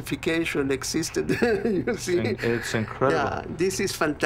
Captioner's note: laughs